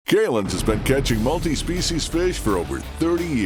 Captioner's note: voiceover